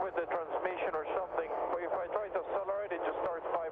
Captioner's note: radio